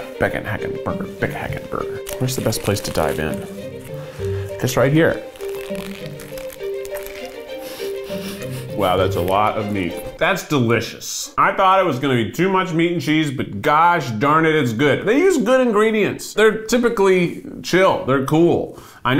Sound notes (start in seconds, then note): 6.2 burger crunching; 7.6 laughs